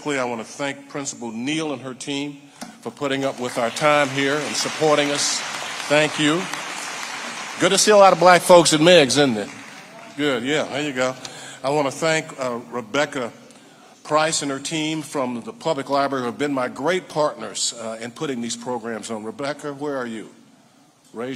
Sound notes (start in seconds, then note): 6.3 audience applauding